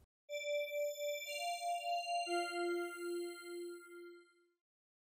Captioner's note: chime